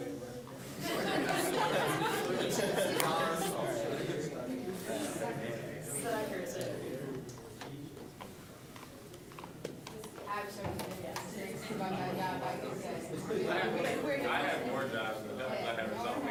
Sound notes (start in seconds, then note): 0.7 audience laughing; 4.4 general chatter